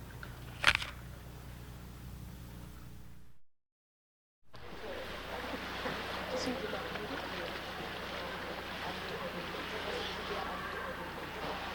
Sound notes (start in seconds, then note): 0.6 apple crunches; 4.5 students chatter quietly; 4.5 water sloshes